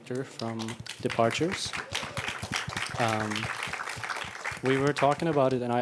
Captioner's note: applauding